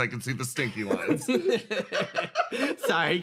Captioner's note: laughs